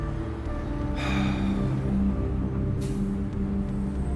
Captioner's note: Ron sighs